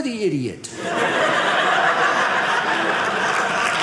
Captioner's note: audience laughing